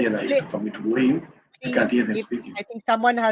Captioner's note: foreign